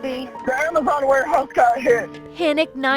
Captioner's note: voiceover